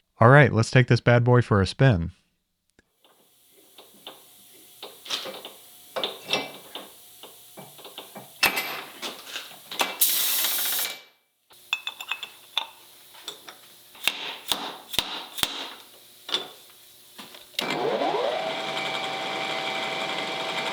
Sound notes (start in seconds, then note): 5.2 metal clangs; 10.4 machine rattles; 12.2 metal clatters; 14.0 hammer bangs; 17.5 machine whirs